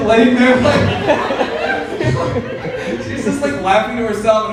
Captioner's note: audience laughing